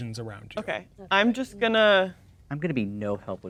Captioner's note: muttering quietly